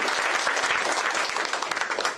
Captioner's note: applause